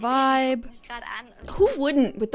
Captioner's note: show contestant speaking in German